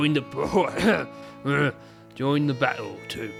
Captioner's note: stumbling, coughing and growling before regaining composure